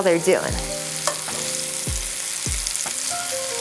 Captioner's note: butter sizzling